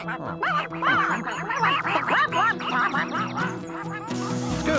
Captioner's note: ducks Quacking